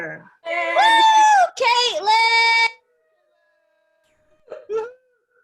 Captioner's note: cheering